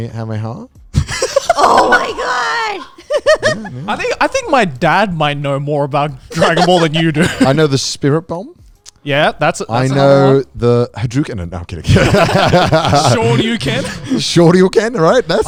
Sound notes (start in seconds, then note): 0.9 laughing